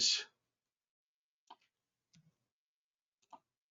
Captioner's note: mouse clicking